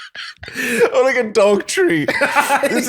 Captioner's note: laughter